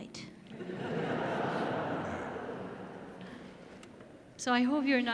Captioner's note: audience laughs